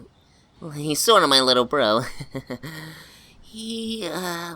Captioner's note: nervous chuckle